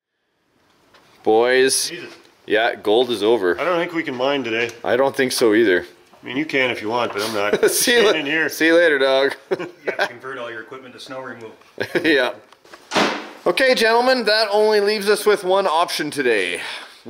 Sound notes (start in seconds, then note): 9.2 laughs; 11.8 laughs